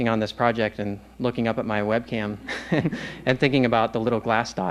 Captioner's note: laughs